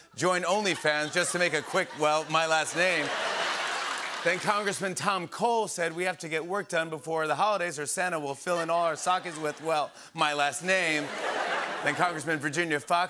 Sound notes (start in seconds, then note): 2.8 laughter and applause; 10.5 laughter and applause